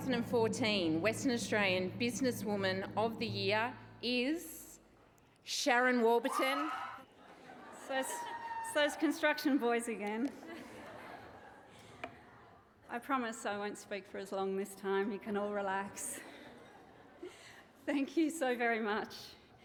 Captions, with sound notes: The 2014 Western Australian Business Woman of the Year is... ..Sharon Warburton. (CHEERING AND APPLAUSE) It's those... it's those construction boys again. (LAUGHTER) I promise I won't speak for as long this time. You can all relax. Thank you so very much.